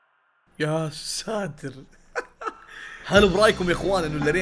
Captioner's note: laughs